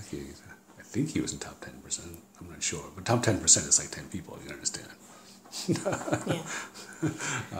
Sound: laughs

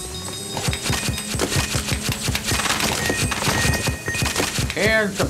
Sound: clattering sound

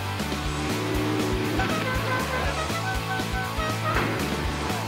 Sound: horn

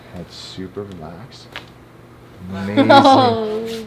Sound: bones cracking

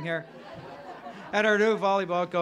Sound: crowd laughing

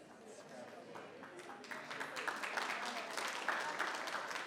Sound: applause

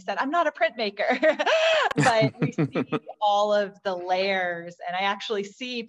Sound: laughter

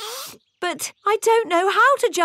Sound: sniffs

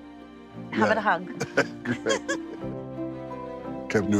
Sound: laughs

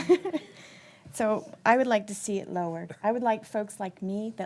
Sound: laughter

